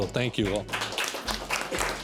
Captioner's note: audience applauds